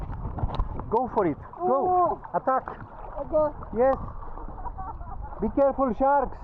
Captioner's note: water splashing